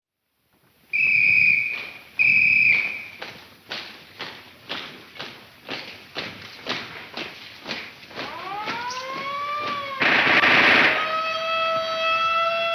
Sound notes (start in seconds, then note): 0.9 whistle blowing; 3.6 feet stomping; 8.2 siren blaring; 10.0 gun firing